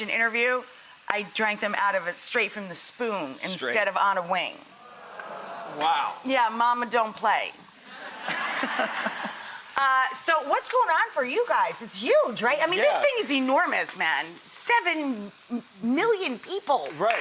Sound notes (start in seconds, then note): 4.7 crowd gasping; 8.0 laughing